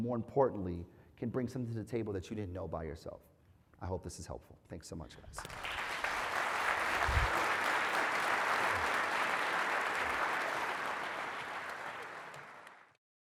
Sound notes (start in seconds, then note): 5.3 applause